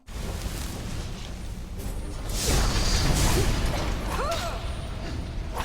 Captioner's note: explosions and crashes echoing